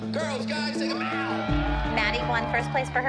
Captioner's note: cheering and applause